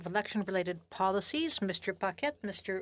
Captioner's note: speaking French